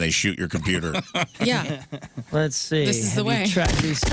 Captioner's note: laughing